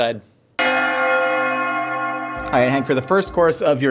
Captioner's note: bells Ringing